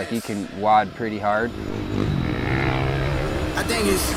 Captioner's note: engine revving